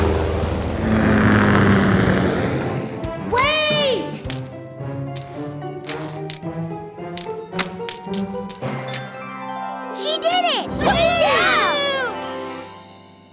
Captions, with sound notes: Wait! She did it! [cheering]